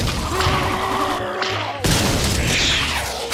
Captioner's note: groaning